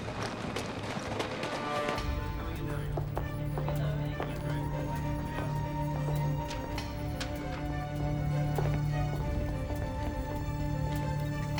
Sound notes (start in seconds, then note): 1.8 people chattering